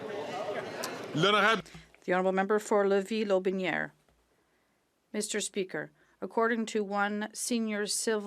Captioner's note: some Applause; speaking French